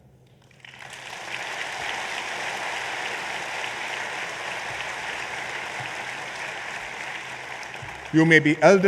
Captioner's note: applause